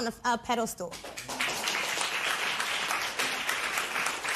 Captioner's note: applause